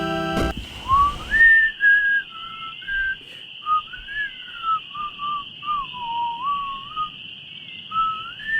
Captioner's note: WraithNado whistling his own theme song as he strolls the carnival grounds